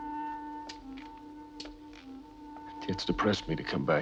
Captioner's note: lighter clicks